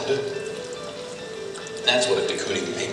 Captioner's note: paint sploshing